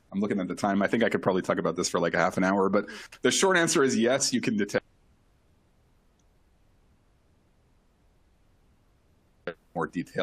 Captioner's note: lost audio